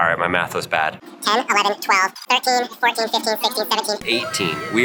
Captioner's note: sped- Up Voice